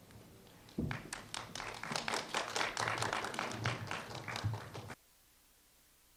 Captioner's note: applause